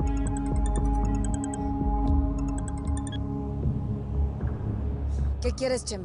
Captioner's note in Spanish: Suena el celular